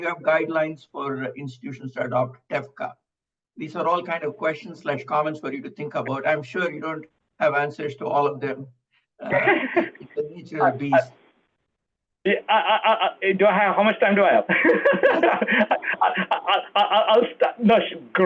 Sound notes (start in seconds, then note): 9.2 laughter; 14.1 laughs